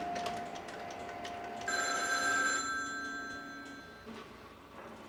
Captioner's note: phone ringing